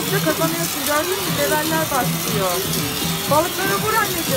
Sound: water sound

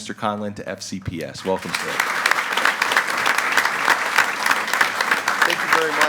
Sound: group applauding

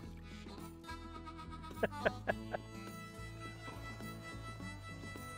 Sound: laughing

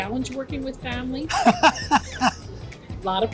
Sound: laughs

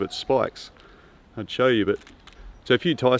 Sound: stem rattles

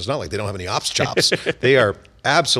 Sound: laughs

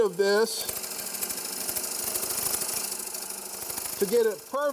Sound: chisel scrapes

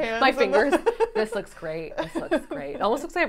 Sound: laughing

